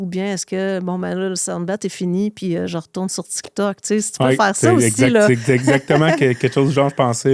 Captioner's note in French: rires